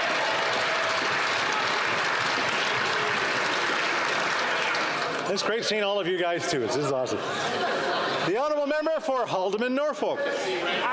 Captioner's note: some Applause